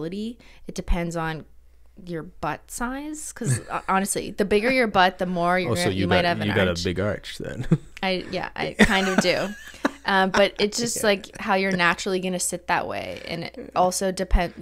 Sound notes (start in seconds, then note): 8.6 laughing